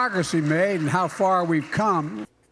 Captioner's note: applause